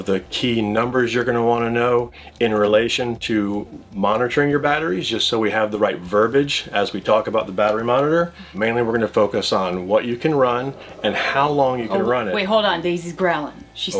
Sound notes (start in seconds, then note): 9.9 Daisy growling